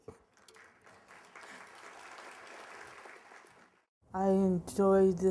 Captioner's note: applause